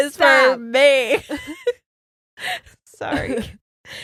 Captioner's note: both giggles